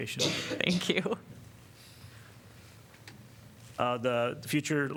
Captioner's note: laughter